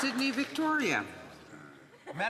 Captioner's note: some Applause